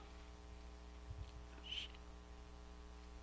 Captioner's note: none